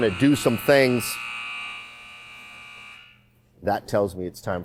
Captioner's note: siren wails